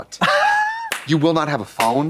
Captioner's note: Katya rattles